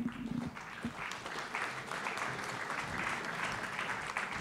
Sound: audience applauding

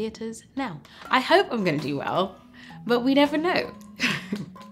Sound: laughs

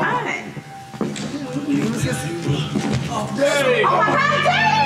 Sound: groaning

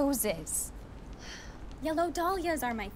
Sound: sighs

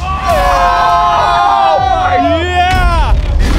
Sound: screaming

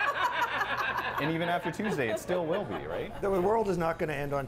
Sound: laughter

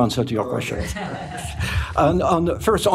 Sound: laughter

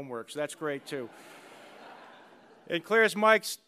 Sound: laughter

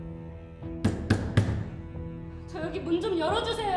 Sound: knocking on the door

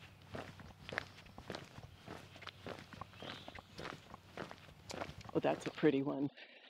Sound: footsteps crunching on gravel

